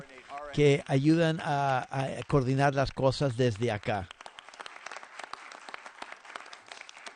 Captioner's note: applause